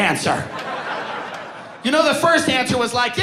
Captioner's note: audience laughing